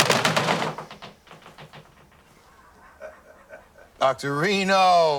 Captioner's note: chuckling